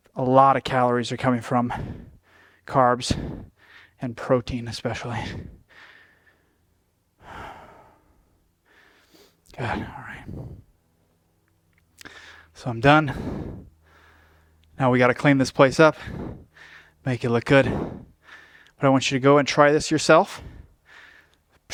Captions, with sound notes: a lot of calories are coming from carbs, and protein, especially. (breathing) So I'm done. Now we got to clean this place up. Make it look good. But I want you to go and try this yourself.